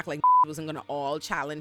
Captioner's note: beep